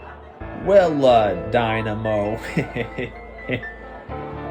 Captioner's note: laughs